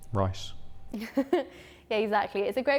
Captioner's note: laughs